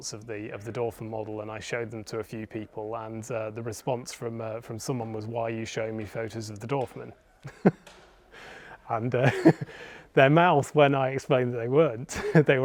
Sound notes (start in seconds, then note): 9.2 laughs